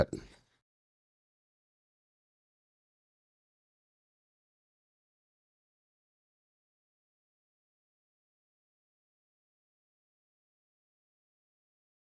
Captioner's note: silence